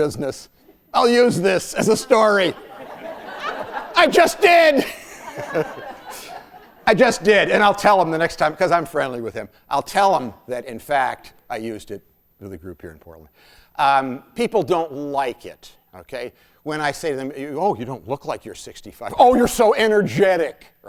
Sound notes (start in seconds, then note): 5.1 laughter